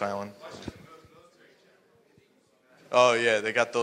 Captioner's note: speaking faintly